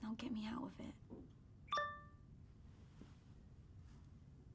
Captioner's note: laptop chimes